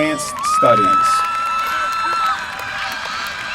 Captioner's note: applause